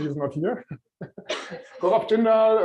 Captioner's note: laughter